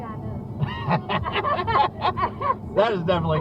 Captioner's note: both of us laughing